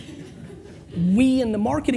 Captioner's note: laughter